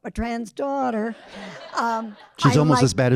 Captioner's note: audience laughing